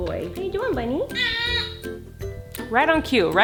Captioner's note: baby whines